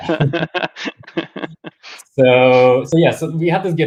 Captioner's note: laugh